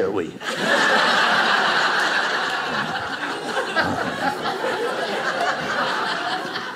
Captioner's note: audience laughing